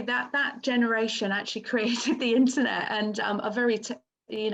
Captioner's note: chuckles